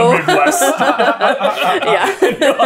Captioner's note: laughter